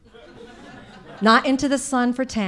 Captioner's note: audience laughing